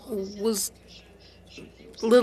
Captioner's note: speaking French